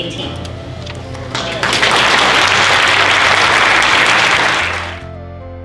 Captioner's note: applause